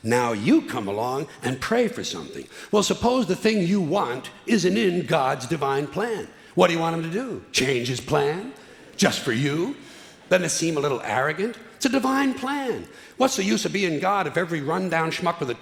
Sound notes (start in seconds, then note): none